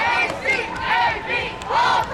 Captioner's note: crowd